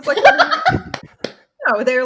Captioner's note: laughs loudly